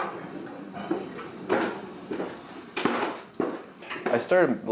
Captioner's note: footsteps